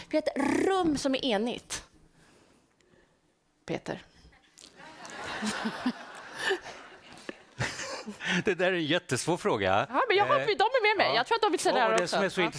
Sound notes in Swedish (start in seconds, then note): 4.7 Skratt från publiken